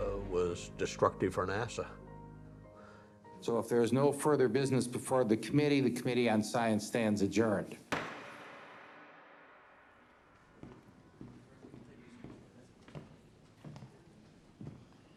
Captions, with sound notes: was destructive for NASA. - So if there is no further business before the committee, the Committee on Science stands adjourned. (gavel banging) (footsteps approaching)